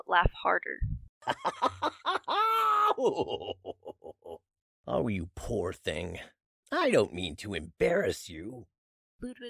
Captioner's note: laughs